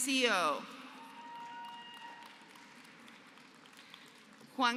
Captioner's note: applause